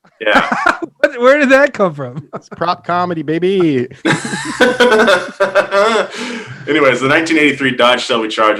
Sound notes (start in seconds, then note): 0.0 laughs; 3.4 hosts laughing